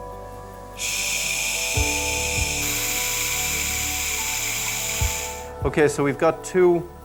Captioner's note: gentle pensive music; drill whirring